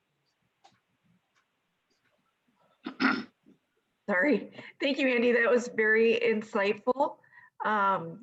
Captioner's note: clearing throat